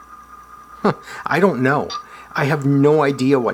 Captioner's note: chuckles